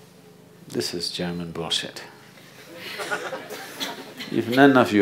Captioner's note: laughter